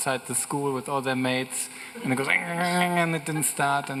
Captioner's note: mimics engine cracking